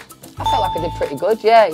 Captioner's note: bell chime